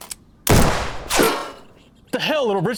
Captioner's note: gunshot banging; metal clinking